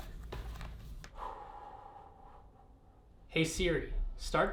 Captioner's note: exhaling